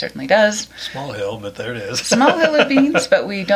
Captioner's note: laughs